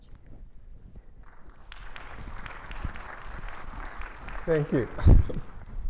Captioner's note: hands clapping